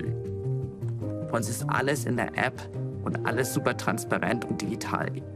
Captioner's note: non-english speech